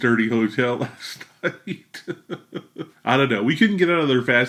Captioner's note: laughs